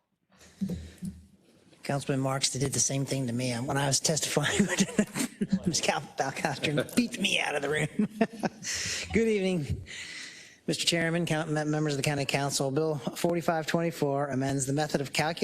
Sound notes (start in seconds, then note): 4.4 laugh